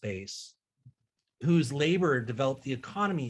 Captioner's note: water resumes flowing